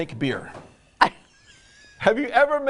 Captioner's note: laughing